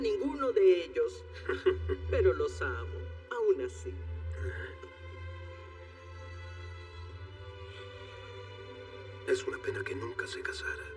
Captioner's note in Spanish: Ríe